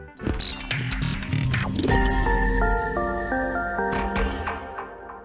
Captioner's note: end Credit Sound Effects